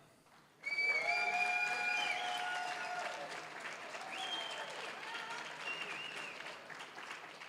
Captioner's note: applause, cheering; applause